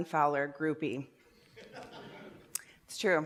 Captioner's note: laughter